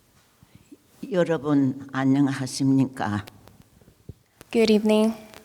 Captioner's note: speaking in foreign language